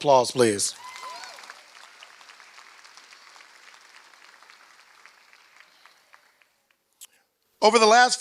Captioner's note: applause